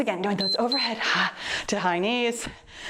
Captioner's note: timer beeps